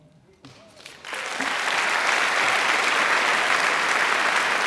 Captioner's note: crowd applauds